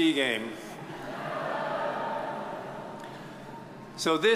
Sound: audience chuckles

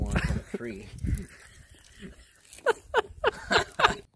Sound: laughing

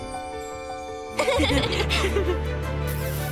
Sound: laughing

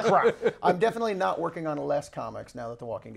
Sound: laughs

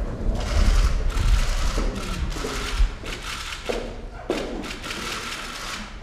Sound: cameras clicking

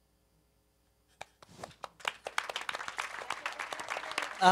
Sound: applause

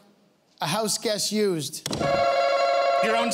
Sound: answer buttons ring

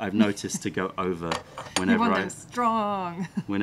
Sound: laughter

